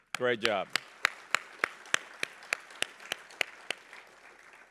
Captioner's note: applause